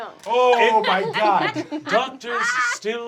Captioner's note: laughing